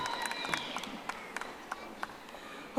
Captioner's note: audience applauding